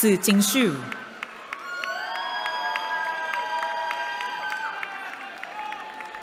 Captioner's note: cheering